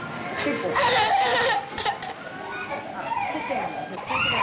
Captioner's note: crying